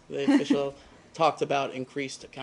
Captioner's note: laughter